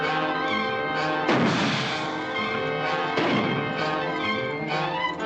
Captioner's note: tense music; gunshots